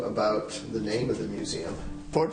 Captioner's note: voiceover